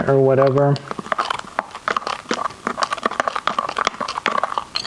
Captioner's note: spoon clattering